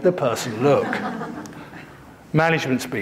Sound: audience laughing

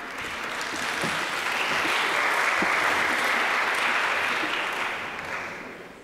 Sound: applause

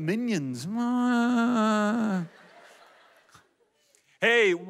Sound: audience laughs

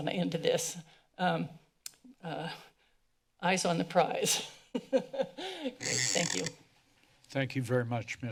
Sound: laughs

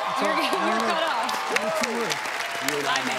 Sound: cheers and applause

